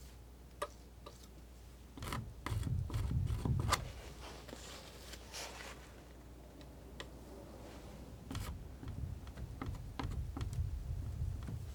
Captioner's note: scratching